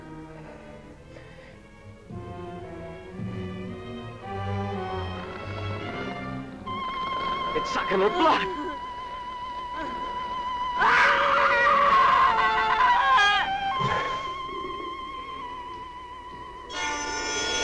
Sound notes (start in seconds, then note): 8.0 sobbing; 10.7 screaming